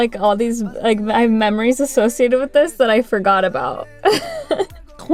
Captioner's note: laughter